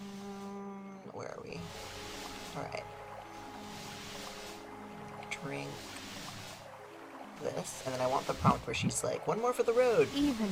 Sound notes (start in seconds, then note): none